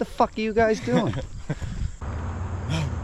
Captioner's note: chuckles